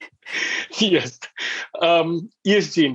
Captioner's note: laughs